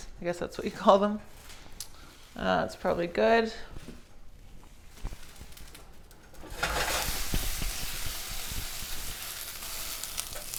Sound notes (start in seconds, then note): 6.4 food sizzling